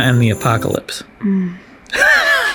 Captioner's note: moans; both laugh